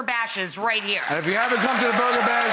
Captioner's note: audience cheers